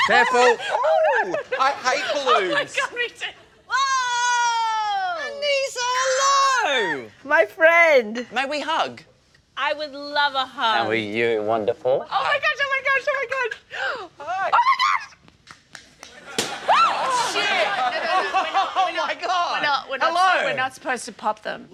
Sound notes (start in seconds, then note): 16.2 all laugh; 16.3 balloon pops